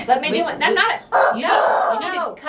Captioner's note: chicken squeals